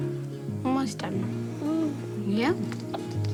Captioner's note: murmurs; cheerful guitar music